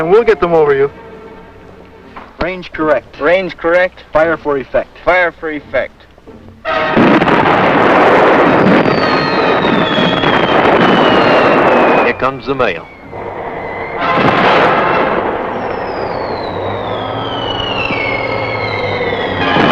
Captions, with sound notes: And boys, remember I'm right in front of these monsters. - Cover over, Pemberton, we'll get them over you. - Range correct. - Range correct. - Fire for effect. - Fire for effect. (cannons blasting) - Here come the mail.